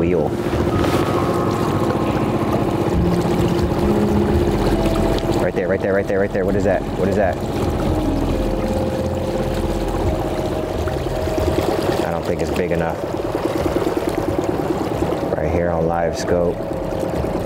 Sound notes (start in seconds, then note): 0.3 eerie music continues; 7.8 boat engine purring; 7.8 eerie music continues